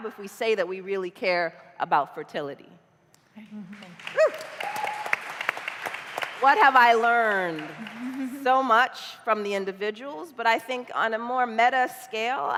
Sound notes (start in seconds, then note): 6.7 applause